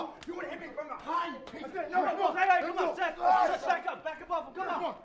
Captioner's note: speaking in foreign language